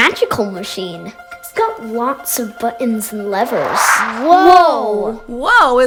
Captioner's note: whoosh sound